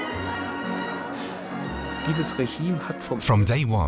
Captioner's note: man speaking german